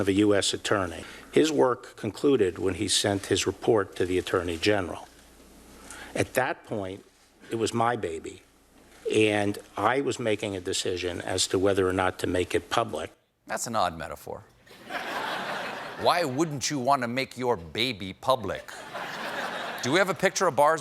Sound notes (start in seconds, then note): 14.6 laughter; 18.6 laughter